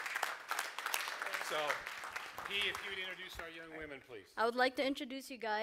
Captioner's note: applause